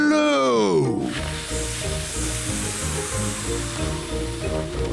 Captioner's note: all blow